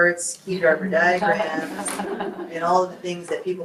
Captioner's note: group laughs